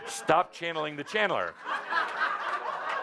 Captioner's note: much laughter from Adamus and audience